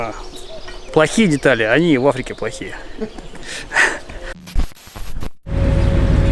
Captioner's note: laughs